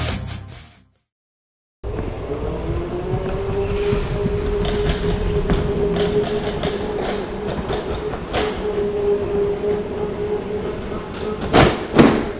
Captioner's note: faint hum of a motor continues